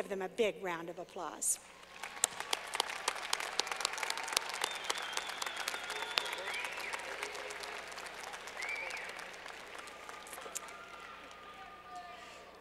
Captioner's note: clapping